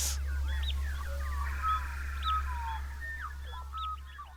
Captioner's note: birds singing